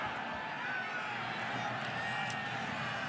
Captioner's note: whistling